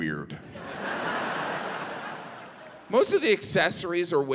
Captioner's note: audience laughing